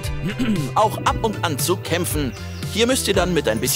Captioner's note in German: Räuspern